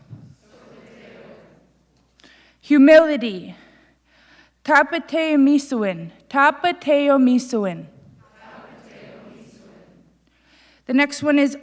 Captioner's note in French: Le public répète; Le public répète